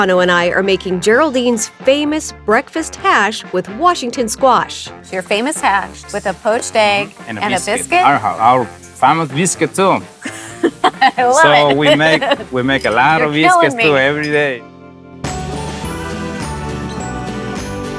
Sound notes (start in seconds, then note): 10.2 chuckles; 15.2 tranquil music